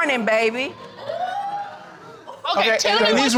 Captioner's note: crowd wooting